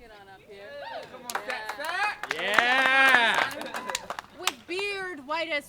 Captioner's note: applause